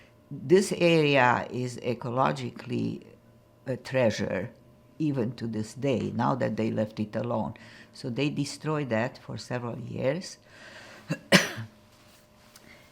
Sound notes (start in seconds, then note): 11.0 coughing